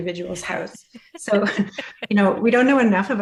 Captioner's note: laughter